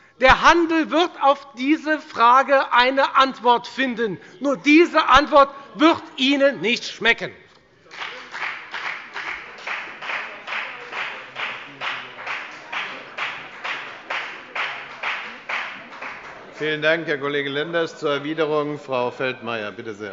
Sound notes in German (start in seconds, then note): 7.8 Beifall bei der FDP